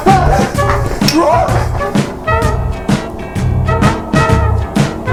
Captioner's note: participant roaring